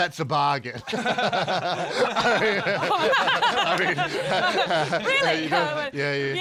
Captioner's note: laughing